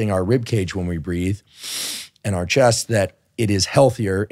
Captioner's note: inhales